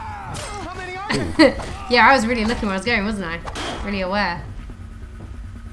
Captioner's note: laughing